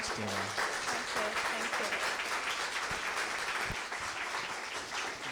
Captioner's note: applause